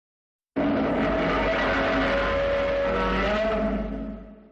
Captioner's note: Godzilla Roaring